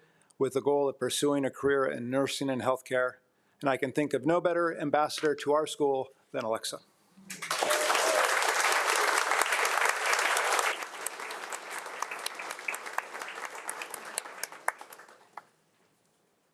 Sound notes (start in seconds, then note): 7.3 audience applauding